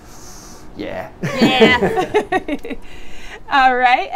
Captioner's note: laughter